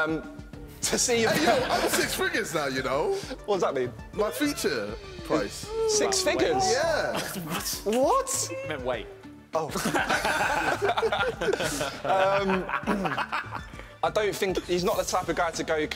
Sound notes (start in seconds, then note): 9.7 laughing